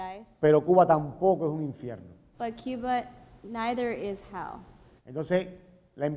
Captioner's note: speaking in Spanish